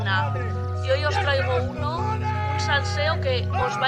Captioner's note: yelling